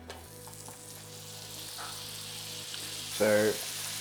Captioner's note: sizzling sound